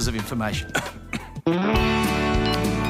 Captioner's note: coughs